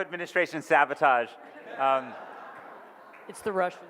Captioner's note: audience laughs